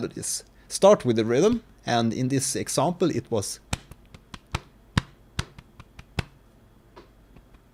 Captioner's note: claps rhythm on chest